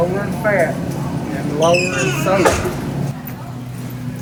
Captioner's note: murmurs